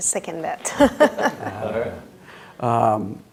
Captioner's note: laughing